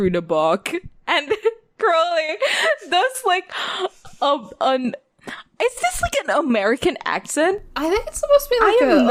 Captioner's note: laughing